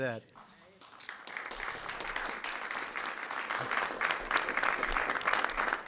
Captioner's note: applause